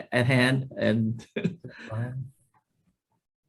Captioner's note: laughs